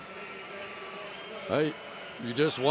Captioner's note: pa announcement